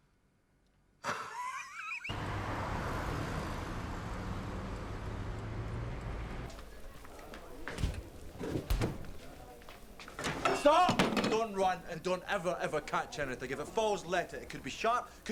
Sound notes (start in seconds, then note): 1.0 Loz laughs; 2.1 engine rumbling; 6.5 patrons chattering; 7.3 food sizzling